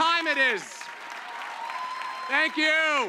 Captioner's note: cheers and applause